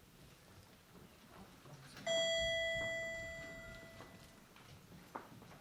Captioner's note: elevator Ding